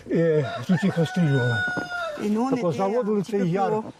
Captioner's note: rooster crowing